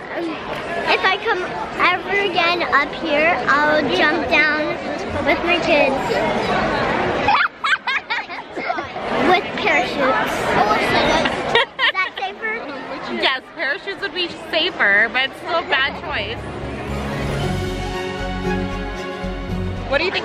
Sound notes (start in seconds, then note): 7.3 laughs; 11.5 laughs; 17.8 classical music